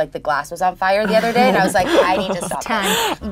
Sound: laughing

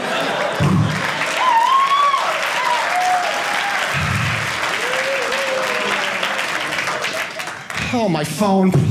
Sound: audience applauding

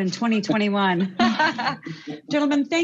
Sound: laughing

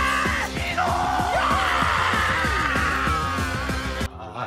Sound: yelling contest

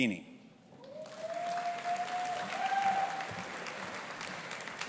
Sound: audience applauding

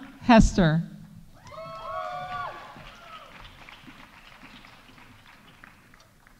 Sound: audience cheering; audience applauding

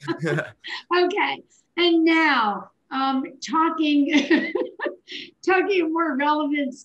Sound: chuckles; chuckles

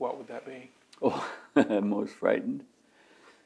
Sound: laughs

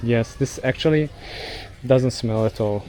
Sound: sniffs

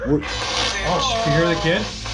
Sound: radio noise hissing

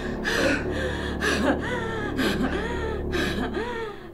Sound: labored breathing

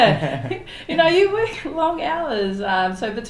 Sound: laughs

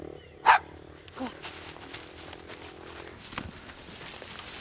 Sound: dog barking

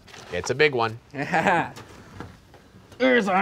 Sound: laughing

